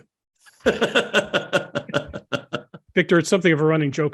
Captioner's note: laugh